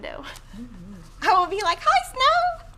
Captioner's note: laughs